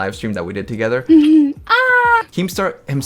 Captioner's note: chuckles